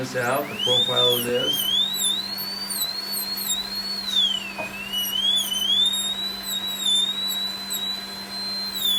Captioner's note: birds Chirping